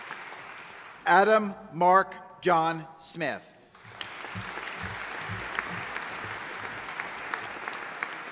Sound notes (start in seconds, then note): 3.7 audience applauding